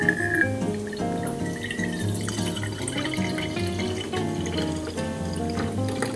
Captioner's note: pouring sound